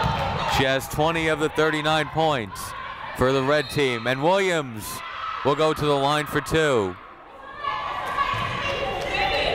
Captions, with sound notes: She has 20 of the 39 points for the red team. (whistle blowing) And Williams will go to the line for two.